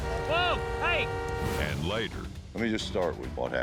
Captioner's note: car horns honking